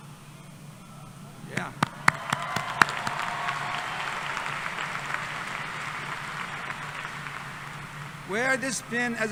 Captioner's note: applause